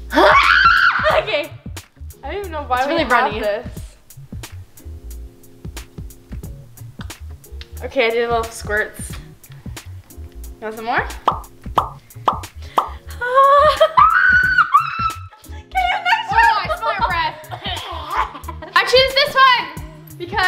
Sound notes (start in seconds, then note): 0.1 screams; 11.1 popping; 13.3 screams